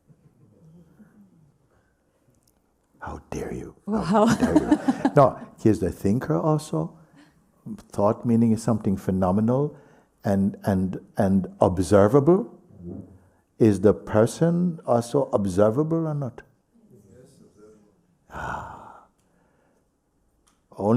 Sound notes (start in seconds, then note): 4.2 laughter